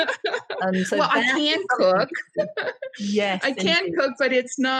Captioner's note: laughing